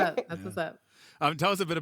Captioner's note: chuckles